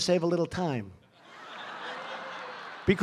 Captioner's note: laughter